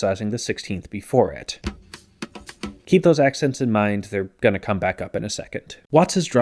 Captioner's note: bang